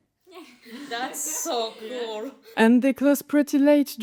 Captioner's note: everyboudy lough